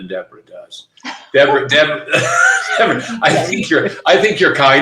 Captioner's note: laughing